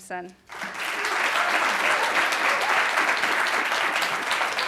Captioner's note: audience applauding